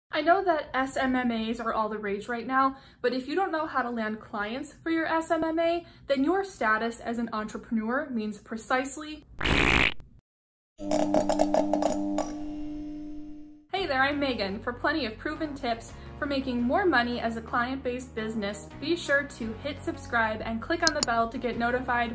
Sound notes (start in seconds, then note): 9.4 fart